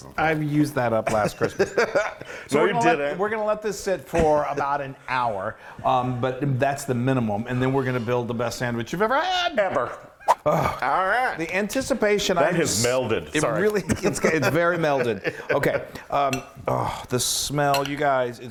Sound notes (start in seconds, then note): 2.0 laughs; 10.2 air swooshes